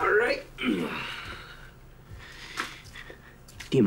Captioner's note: grunts